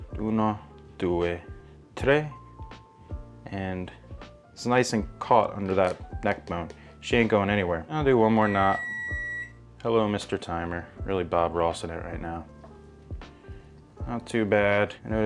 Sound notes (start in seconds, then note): 0.3 speaks foreign language; 8.4 microwave beeps